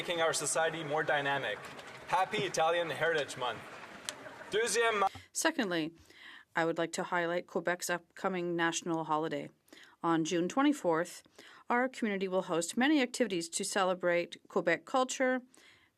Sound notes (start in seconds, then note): 10.5 speaking French